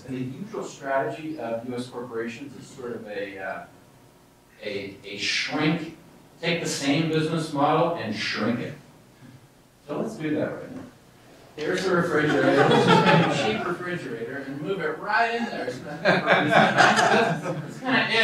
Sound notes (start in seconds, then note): 12.2 laughter